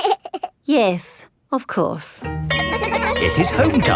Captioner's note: giggles; school bell rings